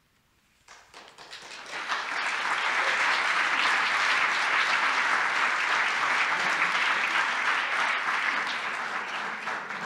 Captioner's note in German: Applaus